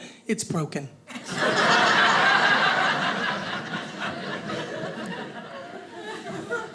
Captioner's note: audience laughing